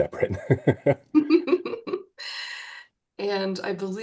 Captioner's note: group laughs